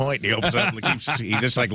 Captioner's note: laughing